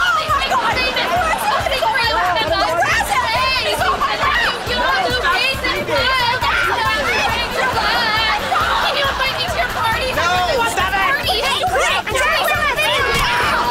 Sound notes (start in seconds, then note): 4.6 arguing